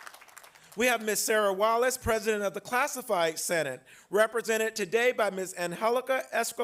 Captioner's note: applause